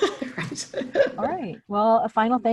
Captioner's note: giggles